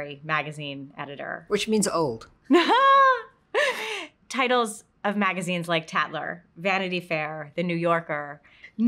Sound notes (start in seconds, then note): 2.5 both laugh